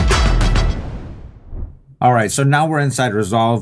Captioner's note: graphics whooshing